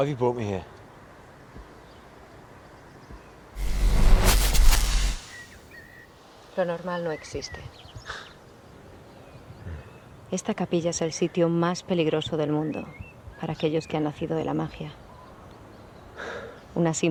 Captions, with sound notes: - Why have you brought me here? (electricity buzzing) (Epona speaking foreign language)